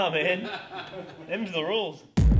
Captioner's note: laughs